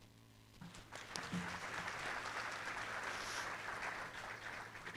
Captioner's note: applause